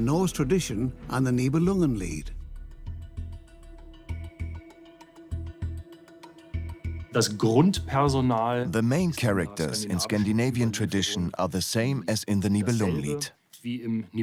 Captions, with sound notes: between the Norse tradition and the Nibelungenlied. (in German) (dubbed in English) The main characters are the same in both traditions.